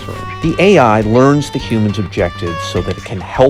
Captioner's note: podcast Voice